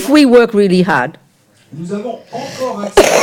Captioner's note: speaking in French